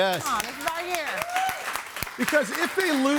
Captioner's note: audience cheers